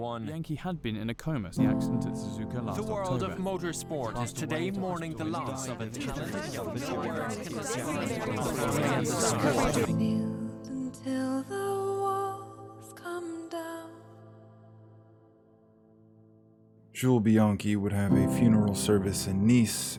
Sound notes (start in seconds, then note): 8.0 mixing voices grow loud and abruptly end